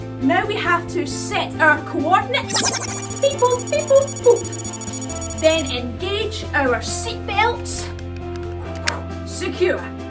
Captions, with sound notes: Now we have to set our coordinates [ELECTRONIC WARBLE] BEE BOO, BEE BOO. BOO! Then engage our seatbelts. Woo Secure!